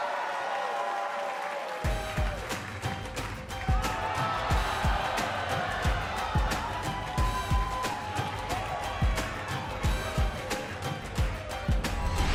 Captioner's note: crowd cheering